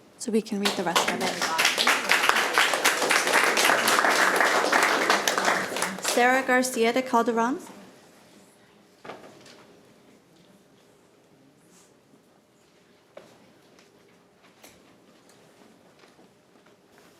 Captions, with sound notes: So we can read the rest of it. (attendees applauding) Sarah Garcia De Calderon?